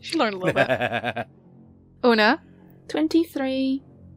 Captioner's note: Annie laughs